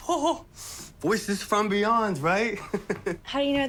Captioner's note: chuckles